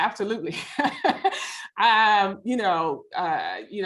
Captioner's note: laughs